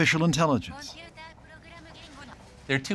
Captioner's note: computer voicing translation in Japanese